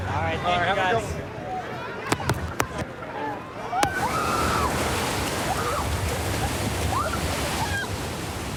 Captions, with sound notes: Thananyoyo g gs.s. [excited screaming]